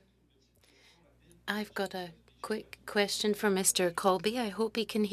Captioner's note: speaking French